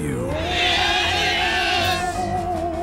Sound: screaming

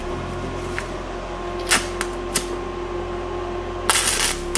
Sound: welding

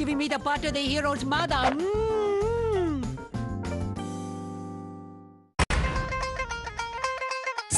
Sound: kissing

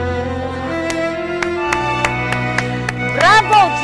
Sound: Divina clapping

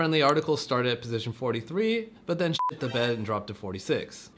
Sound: beep

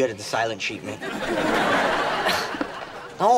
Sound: laughing

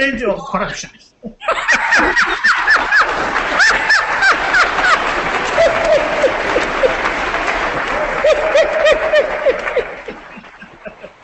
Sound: applause

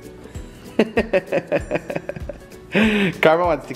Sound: laughs

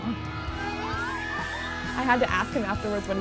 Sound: screaming

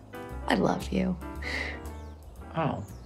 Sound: chuckles

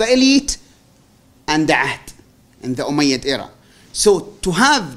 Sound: non-english

